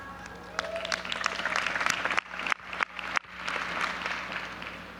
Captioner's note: audience applauding